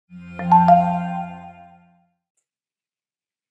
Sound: bells chiming

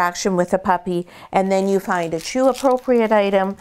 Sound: dog toy crinkling

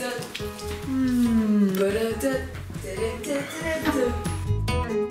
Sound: humming

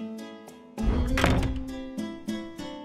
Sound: door opening

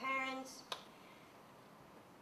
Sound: clap

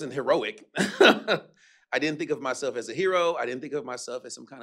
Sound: chuckles

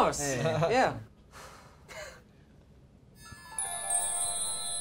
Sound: sighs; chimes

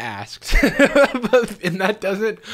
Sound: laughs

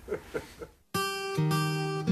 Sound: laughs

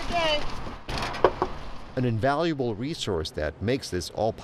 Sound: knocking

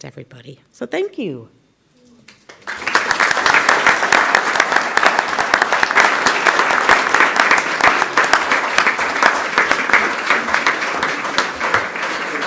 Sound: applause

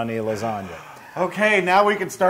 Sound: laugh

